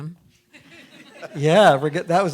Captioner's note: audience laughing